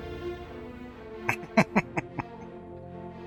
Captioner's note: chuckling